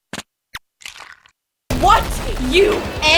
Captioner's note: egg cracking